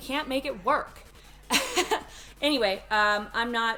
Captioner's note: laughs